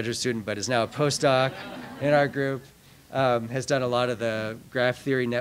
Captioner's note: laughter